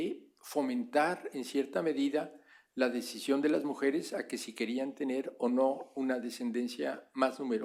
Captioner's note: spanish; spanish